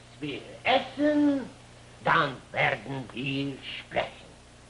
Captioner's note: speaks German